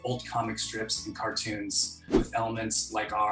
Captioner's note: air whooshing